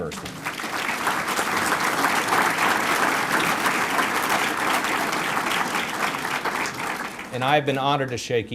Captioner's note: applause